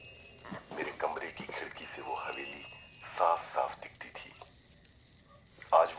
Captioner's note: radio